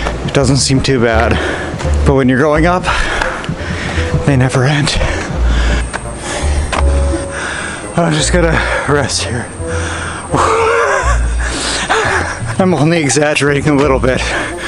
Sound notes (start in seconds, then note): 4.9 panting; 10.2 chuckles